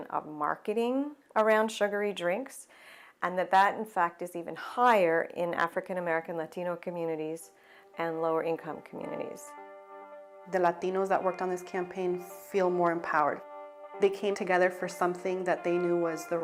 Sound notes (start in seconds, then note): 11.0 voiceover